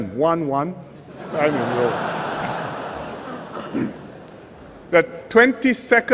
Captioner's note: laughter